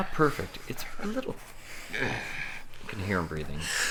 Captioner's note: groaning